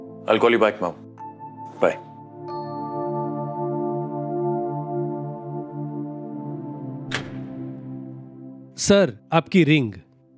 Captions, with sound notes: I'll call you back, Mom. Bye. [Door opening] Sir, your ring.